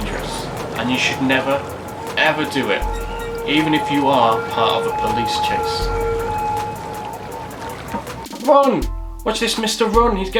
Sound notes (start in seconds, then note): 5.6 sirens